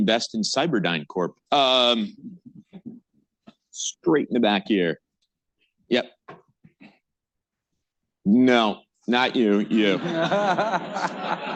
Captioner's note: laughter